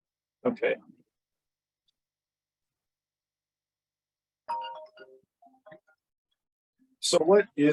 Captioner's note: cell phone ring